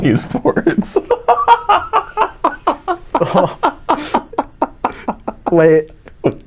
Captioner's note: laughing